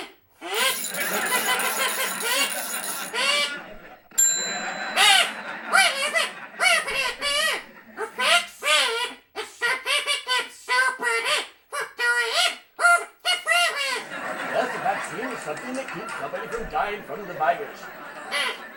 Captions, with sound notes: THINK THINK THINK THINK THINK THINK! (ratchet sound) (ding!) YES! I HAVE IT! I HAVE AN IDEA! A VACCINE IS SOMETHING THAT KEEPS SOMEBODY FROM DYING OF THE VIRUS. Yes, a vaccine is something that keeps somebody from dying from the virus. YES.